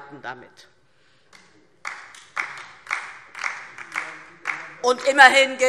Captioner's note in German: Beifall DIE LINKE und vereinzelt SPD